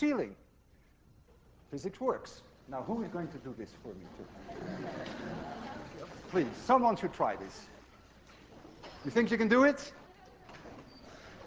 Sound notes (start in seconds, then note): 1.4 class laughs